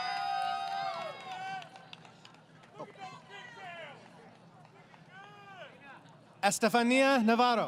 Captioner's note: crowd Cheering